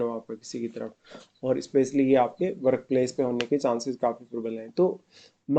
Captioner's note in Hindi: नाक से की जाने वाली आवाज़